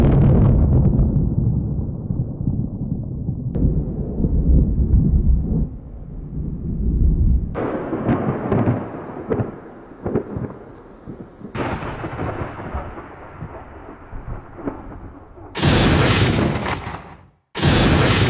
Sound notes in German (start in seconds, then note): 1.2 Gewittergeräusch; 9.3 Donnerschlag; 15.6 Blitzgeräusch